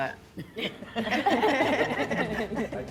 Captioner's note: laughter